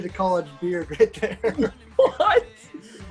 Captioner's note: laughs